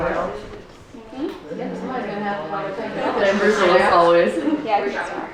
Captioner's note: women murmuring